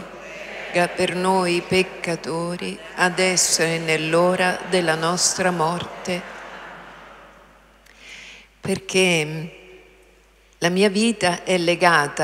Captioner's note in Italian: Applauso